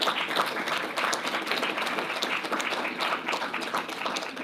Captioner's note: audience applauding